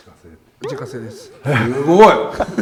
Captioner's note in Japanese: 小声